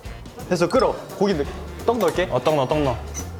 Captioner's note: sauce starts boiling